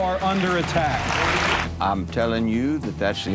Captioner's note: applause